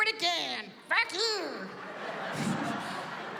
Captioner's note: laughter